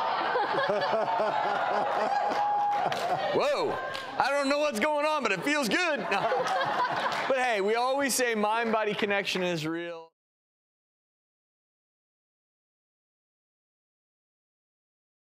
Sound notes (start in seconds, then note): 0.0 laughter; 2.2 cheers; 5.4 laughter